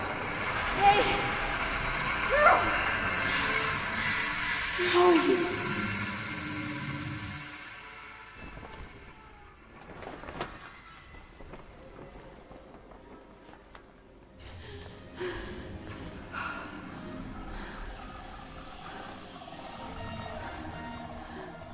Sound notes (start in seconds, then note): 9.6 tarp rustling; 14.7 Julie panting; 18.5 creature chittering